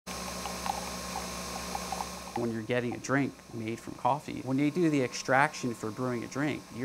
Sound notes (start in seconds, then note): 0.0 coffee brewing